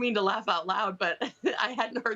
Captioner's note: laughter